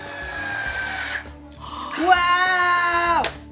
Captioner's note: machine operating; gasping